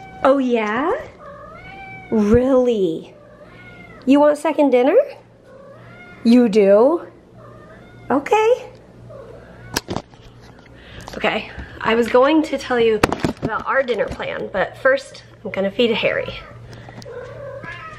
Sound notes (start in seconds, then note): 1.0 Harry meows yes; 8.4 Harry meows thank you